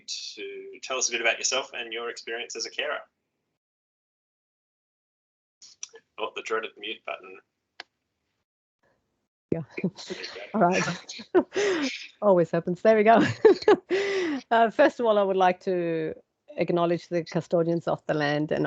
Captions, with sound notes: to tell us a bit about yourself and your experience as a carer? Oh, the dreaded mute button. (chuckles) - All right, always happens. There we go. (Laughs) First of all, I would like to acknowledge the custodians of the land